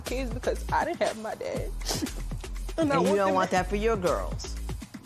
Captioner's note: sniffles